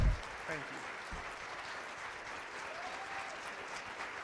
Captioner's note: applause